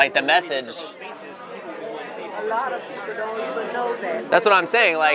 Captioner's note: chatter